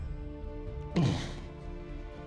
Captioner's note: shivers in disgust; whispering